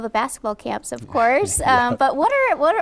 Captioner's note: laughing